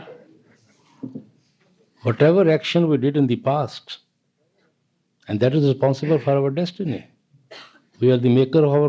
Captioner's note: laughter